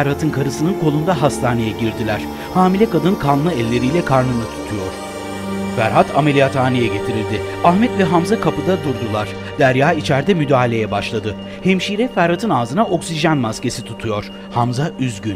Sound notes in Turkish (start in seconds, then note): 0.0 Müzik devam ediyor; 8.6 Tıbbi cihaz sesleri